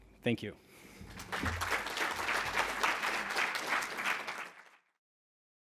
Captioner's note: audience applauds